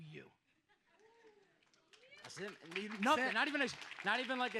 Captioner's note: audience applauds